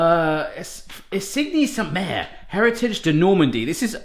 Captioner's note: foreign language